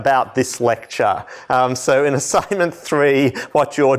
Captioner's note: laughter